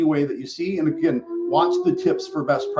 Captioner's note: alarm sounds